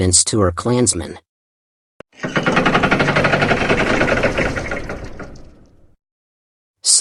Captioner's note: sound effect